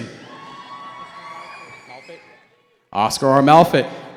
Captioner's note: cheering